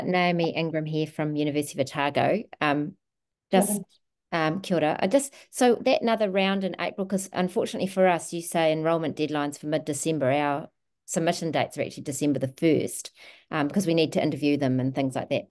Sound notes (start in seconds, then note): 3.7 speaks in te reo Māori